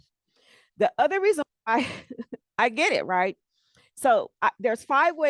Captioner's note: laughs